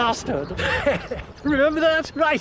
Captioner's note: Johnny chuckling